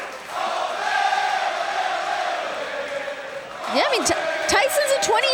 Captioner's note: fans chanting